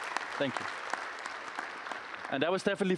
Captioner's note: applause